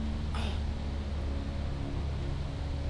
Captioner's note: dramatic sigh